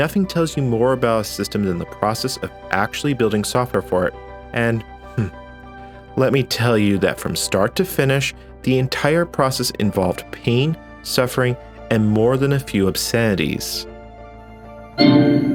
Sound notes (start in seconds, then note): 5.1 chuckle